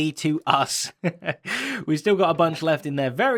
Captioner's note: giggles